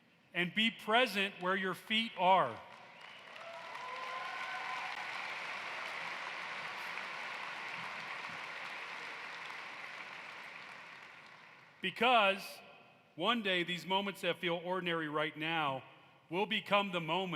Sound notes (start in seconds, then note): 4.9 cheering and applause